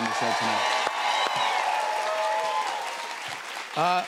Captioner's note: cheers and applause